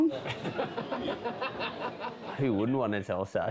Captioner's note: laughing